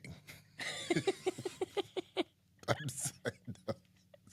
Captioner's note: both laughing